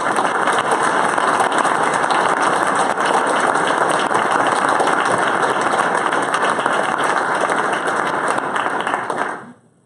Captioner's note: applause